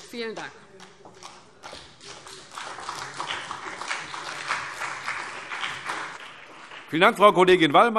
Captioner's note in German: Beifall CDU und BÜNDNIS 90/DIE GRÜNEN